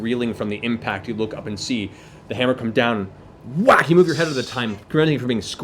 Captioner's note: whack